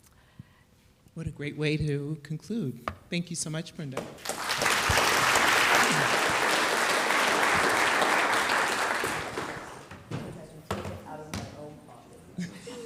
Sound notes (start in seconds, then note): 4.2 audience applauding